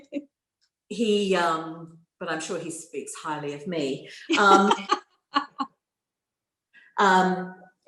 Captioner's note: laughter